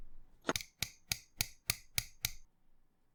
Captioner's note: clack clack clack clack clack clack